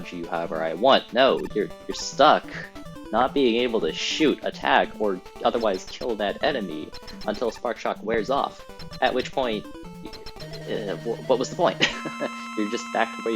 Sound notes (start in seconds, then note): 11.7 chuckles dismissively